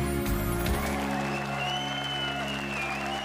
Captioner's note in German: Applaus, Jubel, Pfiffe